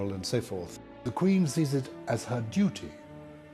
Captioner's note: voiceover